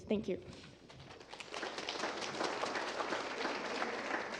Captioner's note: applause